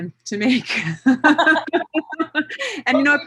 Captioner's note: laughter